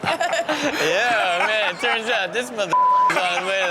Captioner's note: all laugh; beep